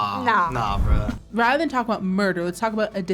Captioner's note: animation whooshes